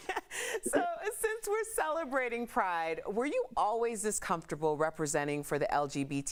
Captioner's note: laughter